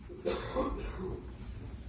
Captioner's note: distant coughing